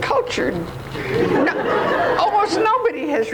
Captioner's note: audience laughs